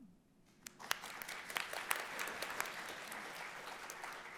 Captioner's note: audience applauds